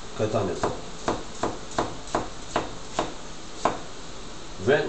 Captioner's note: chop chop chop chop chop